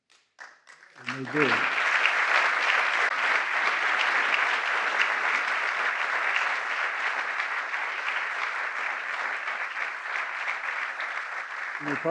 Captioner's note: applause